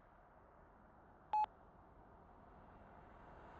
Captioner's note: phone beeps